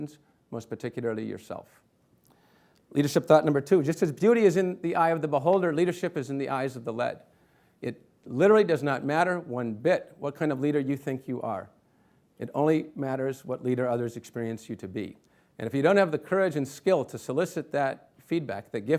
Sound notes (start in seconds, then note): none